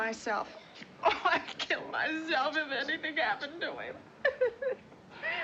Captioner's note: sobbing